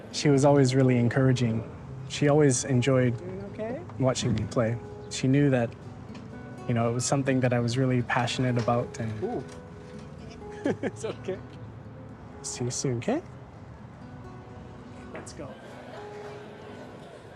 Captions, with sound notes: - She was always really encouraging. She always enjoyed watching me play. She knew that, you know, it was something that I was really passionate about, and... Ooh. (LAUGHS) It's OK. See you soon, K? Let's go.